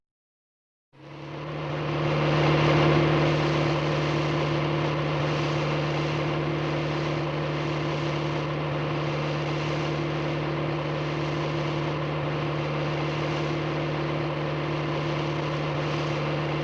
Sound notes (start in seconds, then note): 1.6 car engine roaring